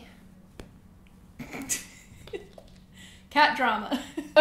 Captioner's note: laughs